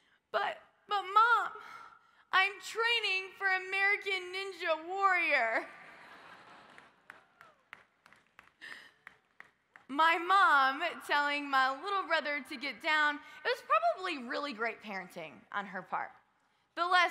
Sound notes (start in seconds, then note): 5.9 audience laughs